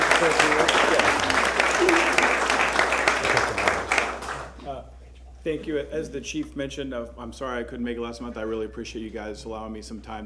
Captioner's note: applause